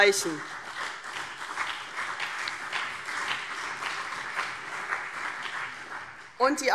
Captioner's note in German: Beifall CDU und BÜNDNIS 90/DIE GRÜNEN